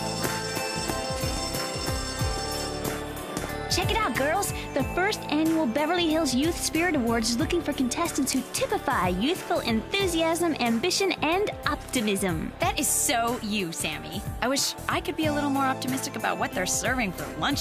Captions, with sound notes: [bell ringing] Check it out, girls, the first annual Beverly Hills Youth Spirit Awards is looking for contestants who typify youthful enthusiasm, ambition, and optimism.